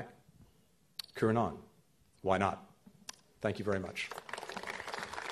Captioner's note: applause